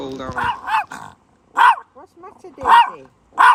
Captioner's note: dog barking